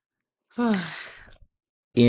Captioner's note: sighs